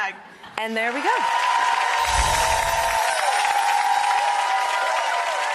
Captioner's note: audience clapping